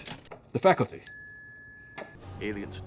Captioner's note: check mark dings